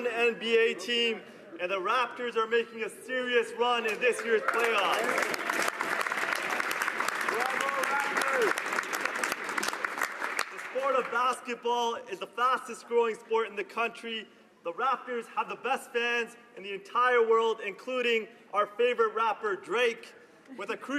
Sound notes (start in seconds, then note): 9.4 some Applause